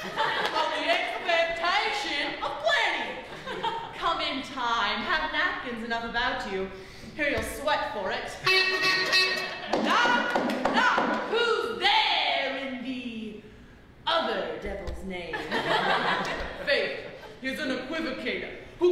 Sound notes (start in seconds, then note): 8.4 three honks; 9.2 knocking; 15.3 laughter